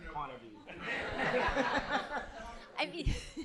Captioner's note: laughter